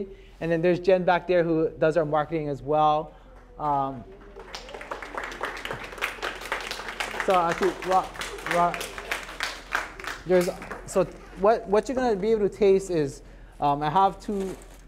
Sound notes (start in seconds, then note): 4.0 applause